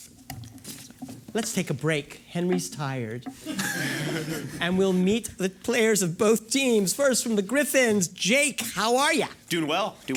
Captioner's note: laughter